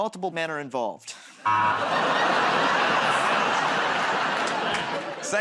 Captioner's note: laughter, buzzer